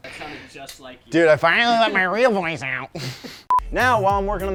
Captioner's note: laughs